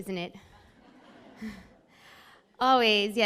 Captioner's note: laughs